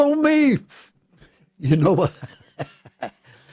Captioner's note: laughter